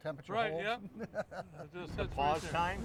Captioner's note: laughing